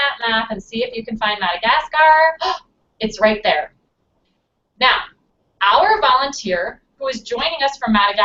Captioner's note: gasp